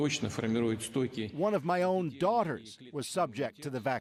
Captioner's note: speaking Foreign Language